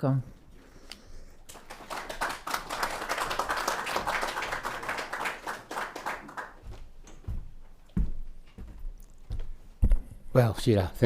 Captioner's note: applause